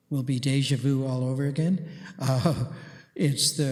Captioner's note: chuckles